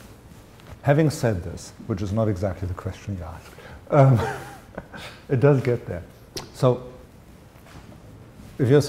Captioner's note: chuckle